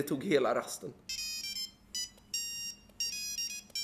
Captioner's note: classic Nokia ringtone anno 2003